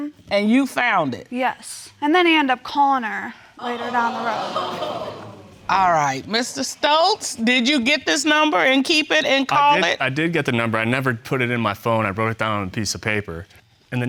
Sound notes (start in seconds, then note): 3.6 audience exclaims